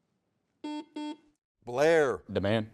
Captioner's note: buzzer beeps